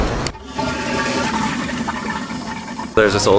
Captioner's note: toilet flushing